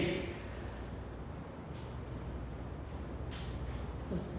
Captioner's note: crickets stridulate